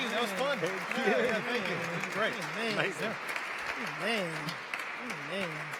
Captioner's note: panelists murmuring